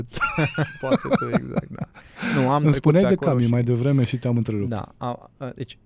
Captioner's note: laughter